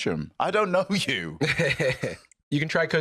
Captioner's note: laughs